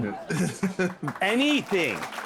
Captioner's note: audience Laughing